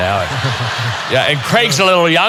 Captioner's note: audience laughing